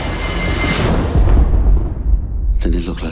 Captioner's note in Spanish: trueno